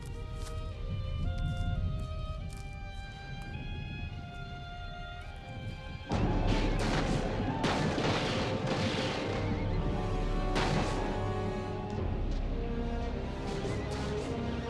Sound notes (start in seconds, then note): 0.4 moves to low melancholy music; 6.1 gunfire blasting; 6.2 posse hollering; 11.4 tense dramatic music